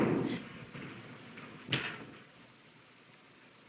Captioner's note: gunshot